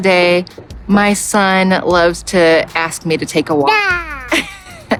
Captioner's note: laughs; child cooing